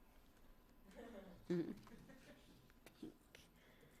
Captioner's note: laughter